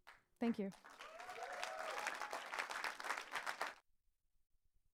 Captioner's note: audience applauds